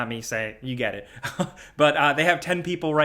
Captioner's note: chuckles